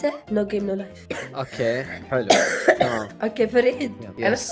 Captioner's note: coughs